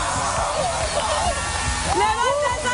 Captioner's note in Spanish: aplausos